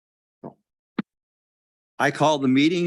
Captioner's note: gavel pounds